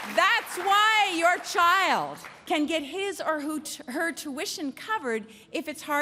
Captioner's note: applause